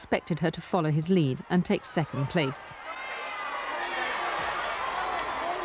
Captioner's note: cheering